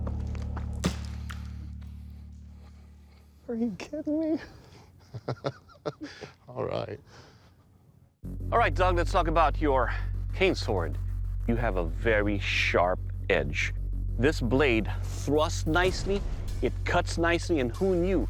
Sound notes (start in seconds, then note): 4.8 laughs